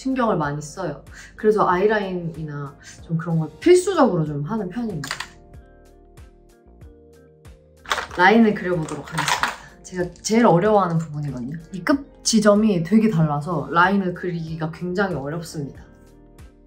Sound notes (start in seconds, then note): 8.1 speaking in Korean